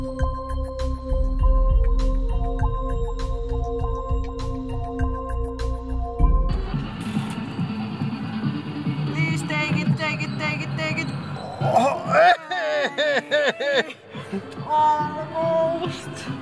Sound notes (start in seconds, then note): 11.4 laughing